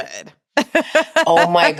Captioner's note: laughs